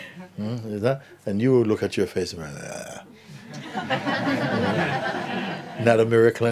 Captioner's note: laughter